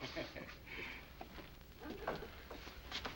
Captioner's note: laughing